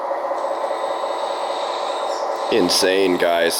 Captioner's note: truck rumbling